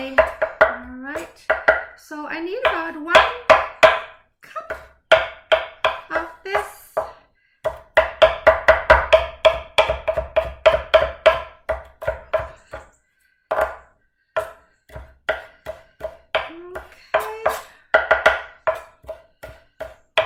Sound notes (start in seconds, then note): 7.6 knife chopping